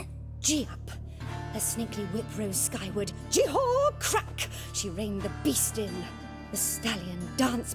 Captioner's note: hesitantly; dramatically